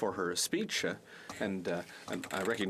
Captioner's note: speaking French